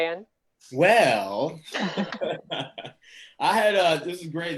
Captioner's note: all laughing; laughs